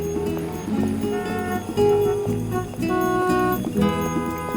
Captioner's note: horns honking